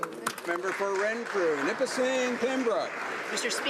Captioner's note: speaking alternate language